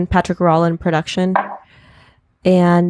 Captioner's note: cup clunking